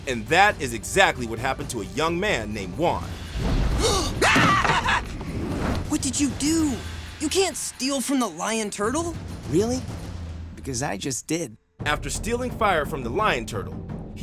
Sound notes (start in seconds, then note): 3.8 screaming